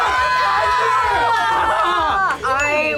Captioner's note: group screams